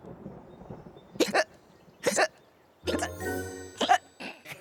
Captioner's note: thunder crashes; hiccuping; laughing